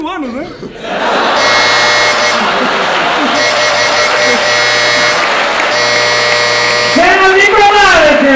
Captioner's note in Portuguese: campainha e aplausos